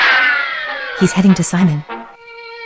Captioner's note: whispering